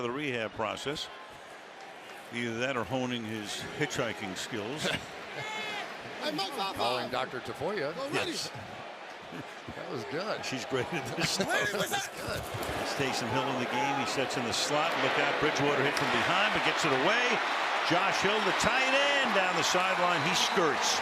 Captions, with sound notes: I guess that's part of the rehab process. Either that or honing his hitchhiking skills. [laughs] Calling Dr. Tafoya. Yes. That was good. She's great at this stuff. [laughter] Taysom Hill in the game. He sits in the slot. Look out. Bridgewater hit from behind but gets it away. Josh Hill, the tight end down the sideline.